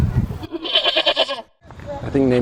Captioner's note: horse braying